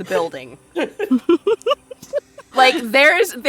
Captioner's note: laughs